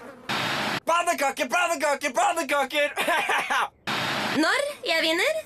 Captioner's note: laughs